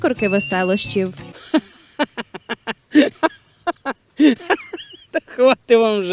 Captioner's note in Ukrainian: сміється